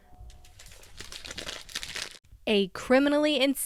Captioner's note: papers rustling